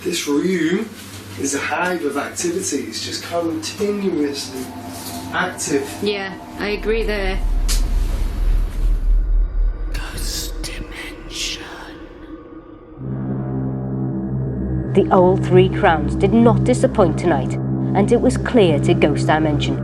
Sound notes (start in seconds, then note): 10.7 ghostly Voice; 13.5 ominous music